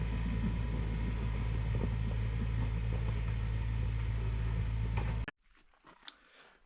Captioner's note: machinery whirring